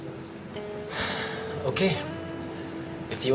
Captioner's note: sighs